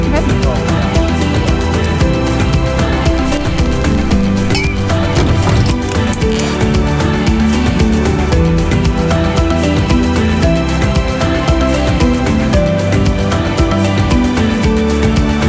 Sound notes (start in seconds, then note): 0.1 couple talking softly; 3.2 cups clinking